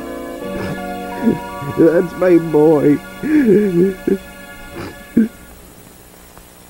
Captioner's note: sniffs; sobs